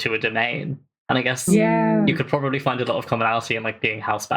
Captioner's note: laughs